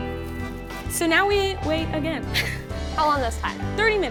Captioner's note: chuckles